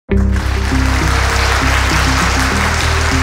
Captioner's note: applause